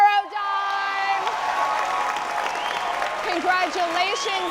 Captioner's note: audience applauding